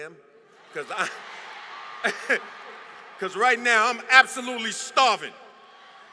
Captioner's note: laughter; applause; laughter